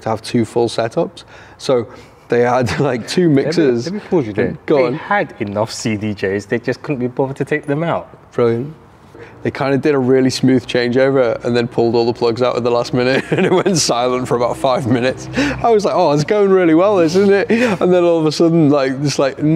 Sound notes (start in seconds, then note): 2.5 chuckles; 13.0 laughing